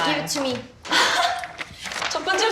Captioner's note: already laughing